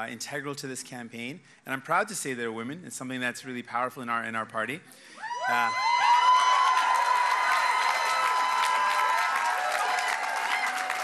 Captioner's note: cheers and applause